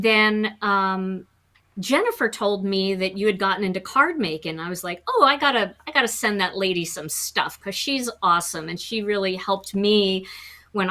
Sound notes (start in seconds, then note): none